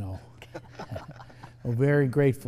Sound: chuckle

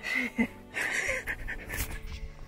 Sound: both laugh

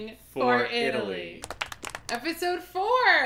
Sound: sfx: small crowd clapping

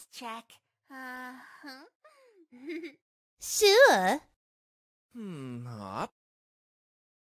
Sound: making angry sounds

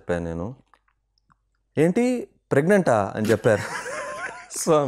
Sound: laughs

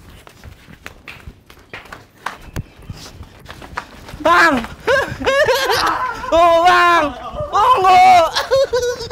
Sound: applause

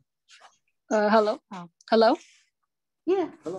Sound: calm Voice

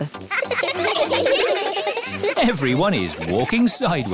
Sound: laughing

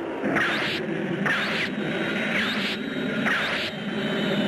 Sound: missiles squealing

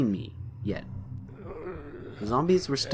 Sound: zombie groans

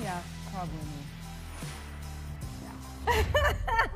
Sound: laughs

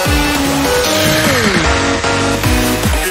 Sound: Sl4sh sighs

